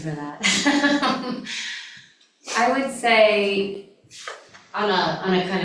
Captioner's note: laughter